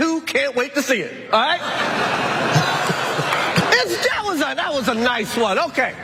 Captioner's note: laugh